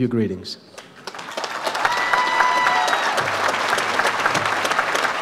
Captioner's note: audience applauds